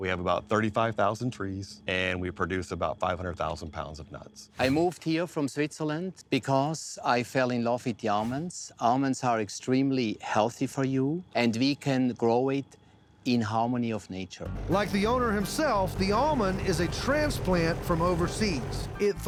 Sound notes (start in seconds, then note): none